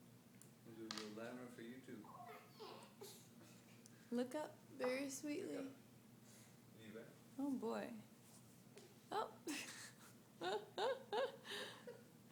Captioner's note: laughing